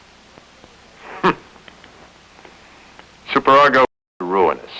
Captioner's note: snorts